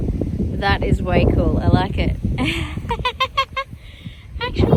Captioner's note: giggles joyfully